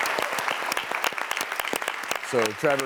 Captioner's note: applause